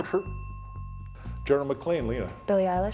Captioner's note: bell ringing